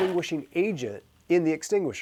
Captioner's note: fire extinguisher releasing